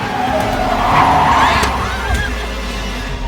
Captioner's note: Alejandra screams